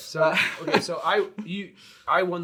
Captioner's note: laughs